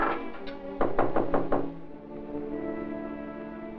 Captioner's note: knock at door